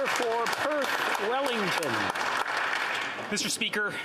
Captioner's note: applause